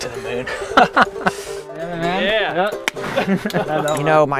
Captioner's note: laughing